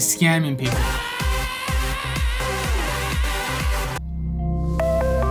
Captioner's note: man screaming